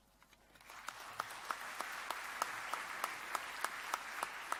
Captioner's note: applause